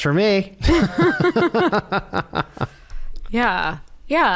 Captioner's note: laughter